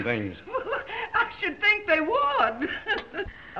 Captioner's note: laughing